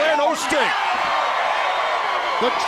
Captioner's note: crowd cheering